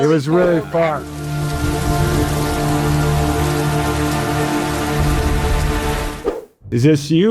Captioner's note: rain pattering; dramatic music